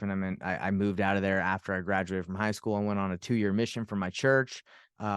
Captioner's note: none